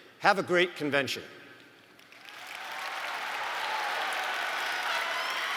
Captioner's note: audience applauds and cheers